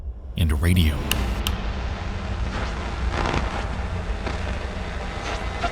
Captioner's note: radio static crackling